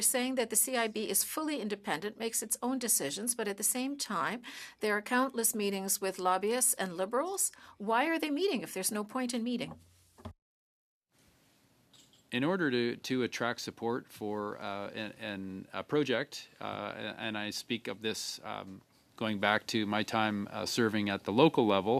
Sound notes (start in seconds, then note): 1.3 speaking French